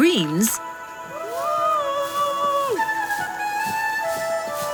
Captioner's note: men yelling